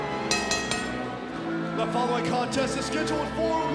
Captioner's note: bell ringing